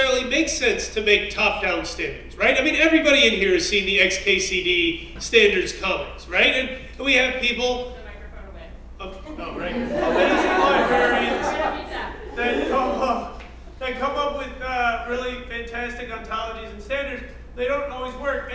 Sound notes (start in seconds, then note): 9.5 laugh